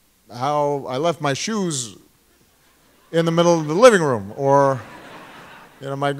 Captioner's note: laughter